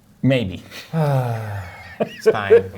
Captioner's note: sighing